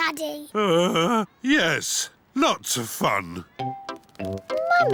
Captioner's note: groans